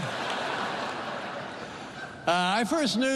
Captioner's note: laughter